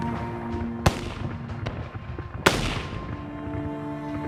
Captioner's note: gun firing